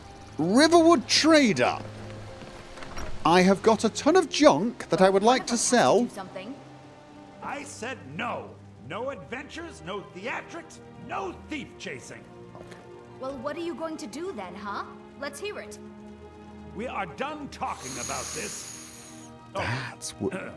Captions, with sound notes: "Riverwood Trader"! I have got a ton of junk that I would like to sell. *whisper* Okay. O_O That's wo-